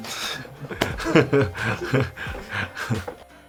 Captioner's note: laughs